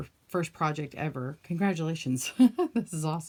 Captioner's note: laughing